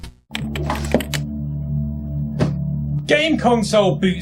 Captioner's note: book sliding on counter